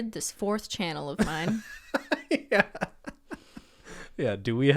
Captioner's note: laughs